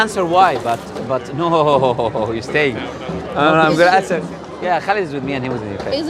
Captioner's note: side chat